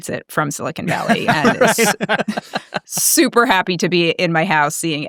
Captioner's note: laughing